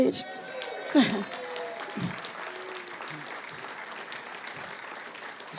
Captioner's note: audience applauding